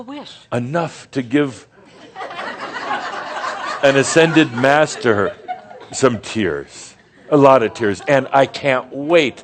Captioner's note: some chuckles